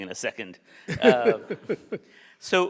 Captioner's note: laughs